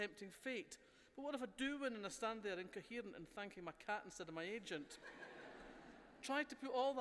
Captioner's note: laughter